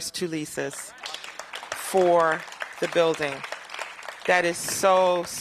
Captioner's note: applause